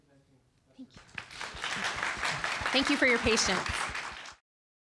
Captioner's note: applause